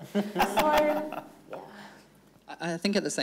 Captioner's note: everyone laughing